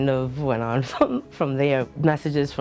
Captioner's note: chuckles